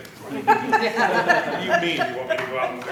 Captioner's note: laughter